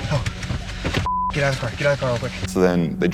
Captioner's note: beep